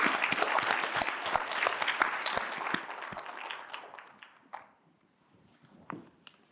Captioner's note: applause